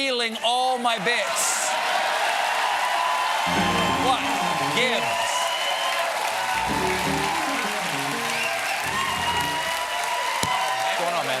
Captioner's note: cheers and applause